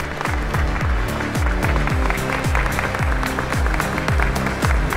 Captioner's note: applause